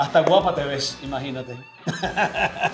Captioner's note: laugh